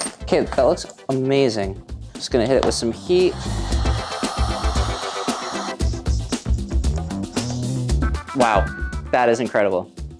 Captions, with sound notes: Okay, that looks amazing. I'm just gonna hit it with some heat. (tool whirring) Wow, that is incredible.